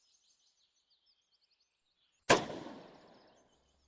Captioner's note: gunshot